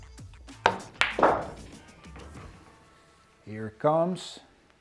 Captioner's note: pool ball hitting